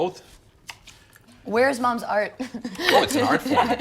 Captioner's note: laughs